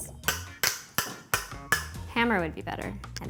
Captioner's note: tapping jar lid